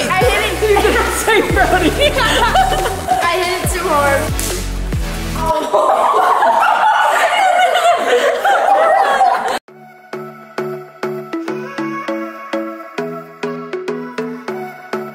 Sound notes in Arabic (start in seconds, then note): 5.5 الجميع يضحكون